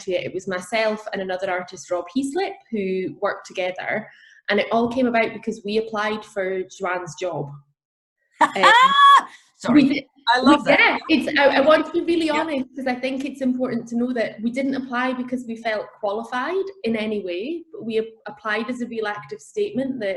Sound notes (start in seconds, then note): 8.4 laughing